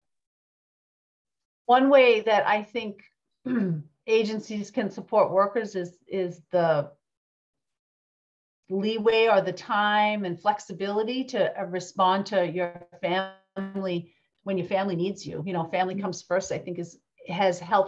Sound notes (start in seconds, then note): 3.5 clears throat